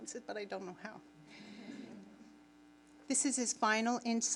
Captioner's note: audience laughing